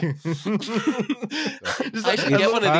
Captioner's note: laughter